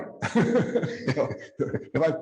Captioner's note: chuckling